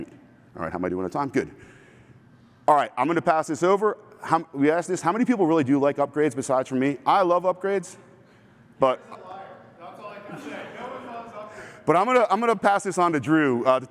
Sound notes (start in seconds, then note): 10.3 laughter